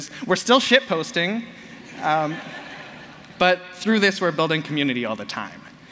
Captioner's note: laughter